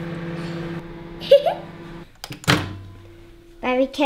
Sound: laughs

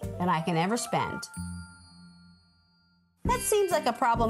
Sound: bell dinging

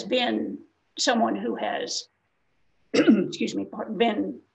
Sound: clears throat

